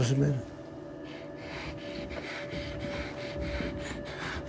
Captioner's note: hyperventilating